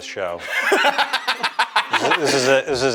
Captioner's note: laughing